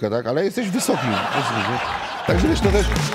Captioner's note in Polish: śmiech